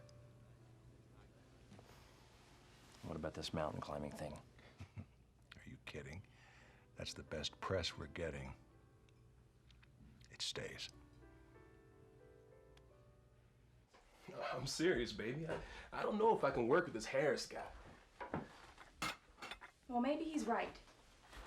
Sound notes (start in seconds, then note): 4.6 chuckling